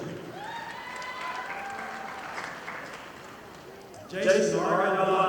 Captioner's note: audience applauding